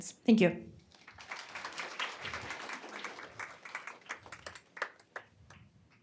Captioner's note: applause